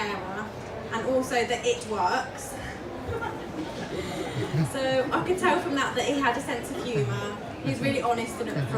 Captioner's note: audience laughs